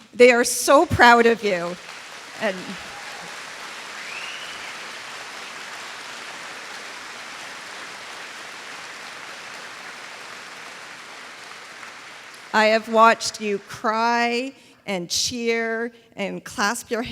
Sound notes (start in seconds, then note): 0.9 applause